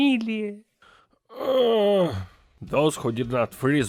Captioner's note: moaning